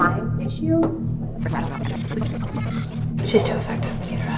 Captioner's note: video whirring